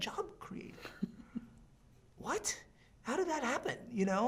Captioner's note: chuckling